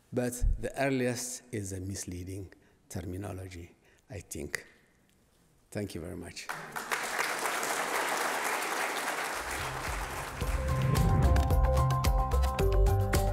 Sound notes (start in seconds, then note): 6.4 applause; 9.6 dramatic music